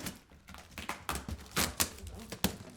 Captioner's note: tape ripping